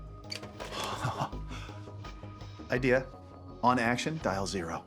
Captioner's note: laughs